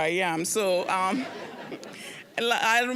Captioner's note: audience laughing